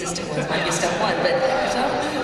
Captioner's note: laughter